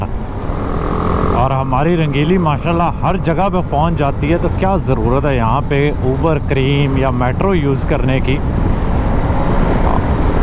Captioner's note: motorcycle